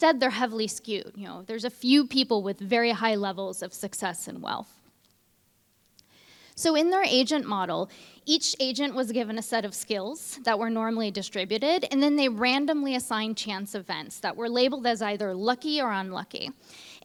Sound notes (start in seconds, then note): none